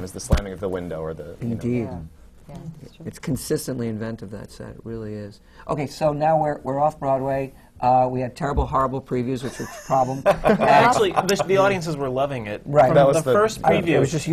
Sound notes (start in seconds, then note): 9.4 laughter